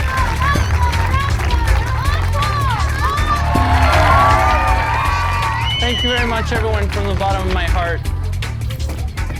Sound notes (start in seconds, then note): 2.6 audience cheering and applauding